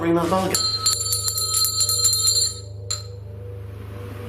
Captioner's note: bell rings